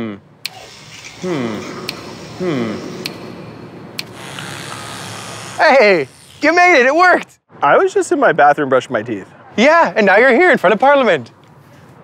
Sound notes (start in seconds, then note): 3.0 snap